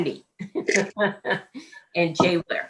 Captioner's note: laughs